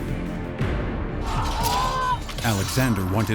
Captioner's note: screams